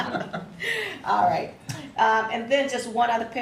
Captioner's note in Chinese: 笑得差点气没接上